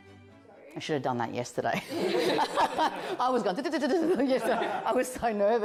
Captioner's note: light music; everyone laughing